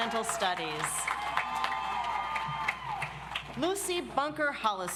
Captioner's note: audience applauds